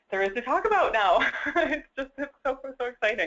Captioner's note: laugh